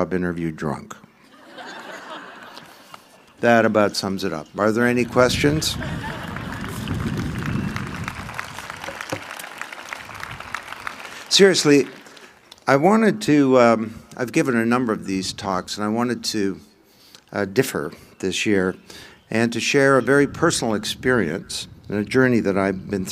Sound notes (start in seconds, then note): 1.2 laughter; 9.2 applause